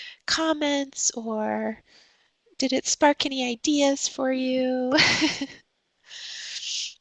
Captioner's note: chuckles